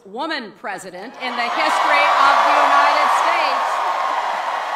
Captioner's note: cheering